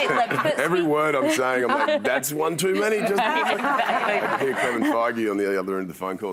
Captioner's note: laughter